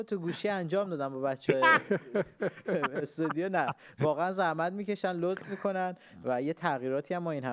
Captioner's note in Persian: خنده